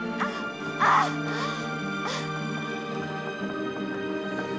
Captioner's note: Catherine yelling